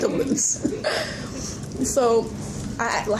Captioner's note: laughing